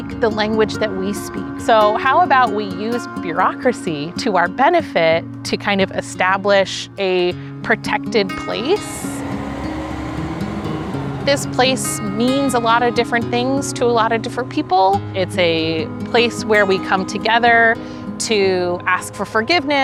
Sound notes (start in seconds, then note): 9.3 wind noises